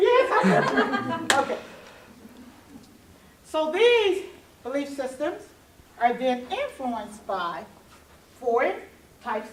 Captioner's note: laughing